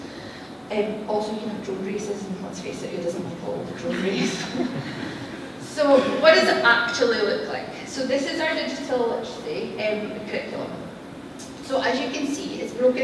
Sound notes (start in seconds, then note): 3.9 laughter